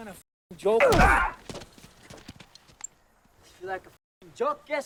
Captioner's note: driver grunts